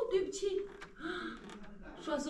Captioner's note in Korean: 남녀의 목소리가 들린다